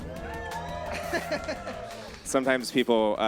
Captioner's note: audience cheers